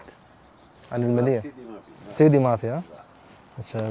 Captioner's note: Arabic